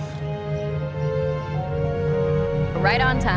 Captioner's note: ship hums